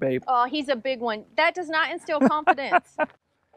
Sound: laughing

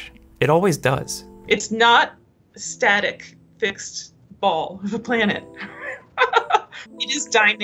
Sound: laughs

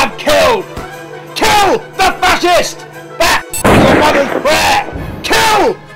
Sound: gunshot

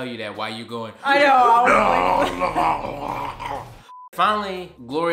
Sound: growling

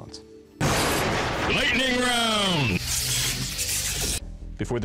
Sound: intense male voice

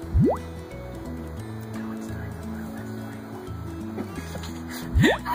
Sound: beeping, silly sound; laughs

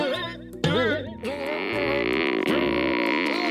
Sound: straining; canvas creaking

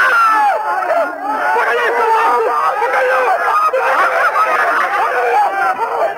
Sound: shouts continue

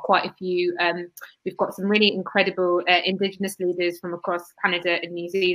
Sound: erm

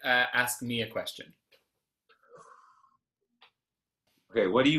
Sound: deep breath

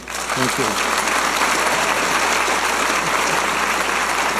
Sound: audience applauding

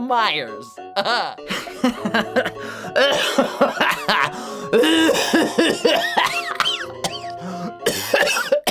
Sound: laughing to coughing to DYING!

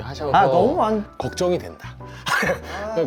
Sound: laugh

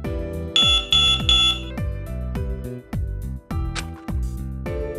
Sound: suddenly, the elecronic beeping started again

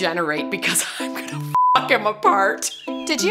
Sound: beep

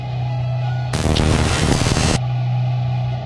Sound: ominous music; static noise

